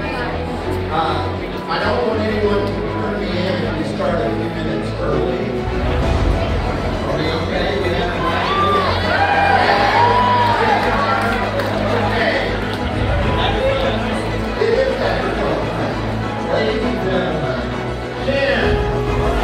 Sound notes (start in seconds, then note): 7.6 crowd cheers